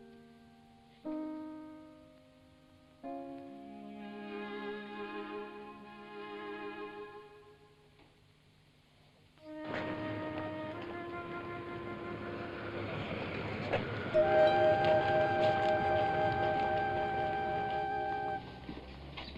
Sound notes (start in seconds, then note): 9.4 melancholy music; 9.6 city street sounds